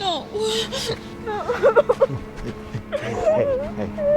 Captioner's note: crying